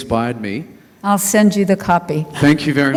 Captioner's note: chuckles; laughing